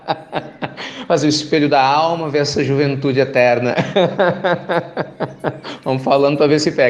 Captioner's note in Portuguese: Risos